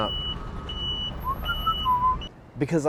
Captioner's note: beeping; whistles